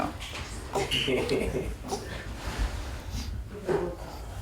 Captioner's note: chuckles